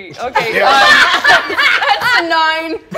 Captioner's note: all players laugh